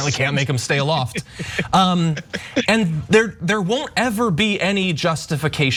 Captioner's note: laugh